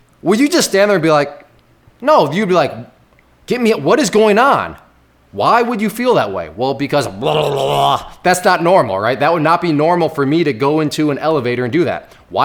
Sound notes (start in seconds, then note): 7.0 vocalizing strangely